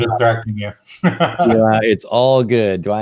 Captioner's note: laughs